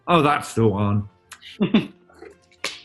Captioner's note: chuckling